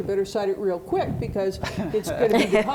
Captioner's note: laughing